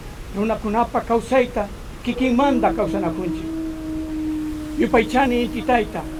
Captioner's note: habla en idioma extranjero